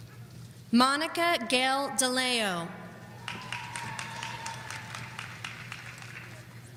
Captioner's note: audience applauding